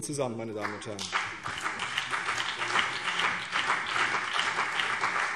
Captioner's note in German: Beifall CDU und BÜNDNIS 90/DIE GRÜNEN